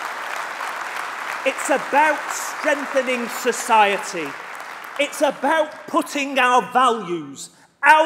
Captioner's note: applause